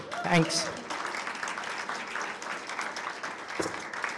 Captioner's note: applause